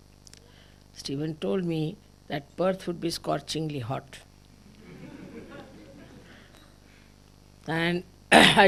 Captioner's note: laughter